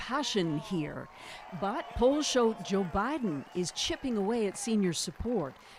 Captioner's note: cheers and Applause